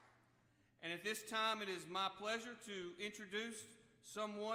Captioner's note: applause